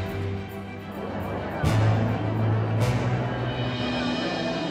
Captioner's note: audience murmur